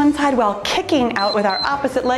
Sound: timer beeps

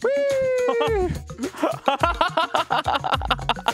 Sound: laughing

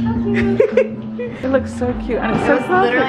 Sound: laughs

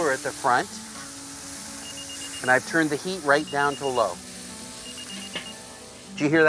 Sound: beeping

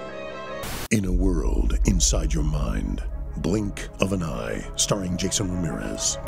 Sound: voiceover

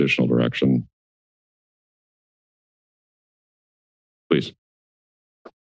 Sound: silence

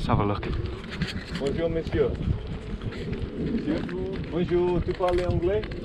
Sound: speaking in a foreign language

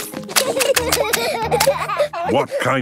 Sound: laughter

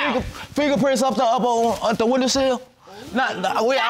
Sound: stammers

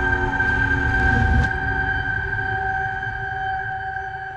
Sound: swoosh

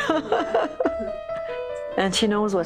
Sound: laughs

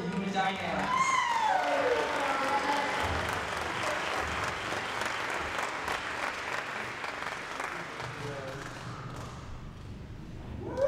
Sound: applause

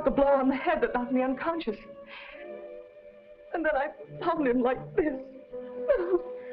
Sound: sobs

